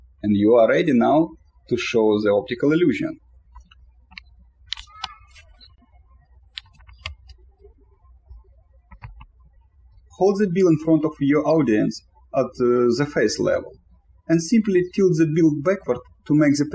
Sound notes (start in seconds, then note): 3.9 birds chirping